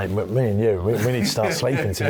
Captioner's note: laughs